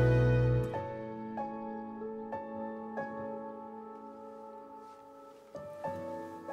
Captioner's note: gentle music; muffled birds chirp